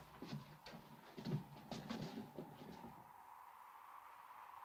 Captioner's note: footsteps shuffling; wind blows